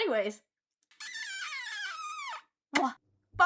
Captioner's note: loud cartoon kissy sfx; mwah